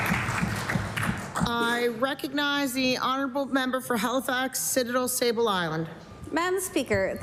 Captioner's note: applause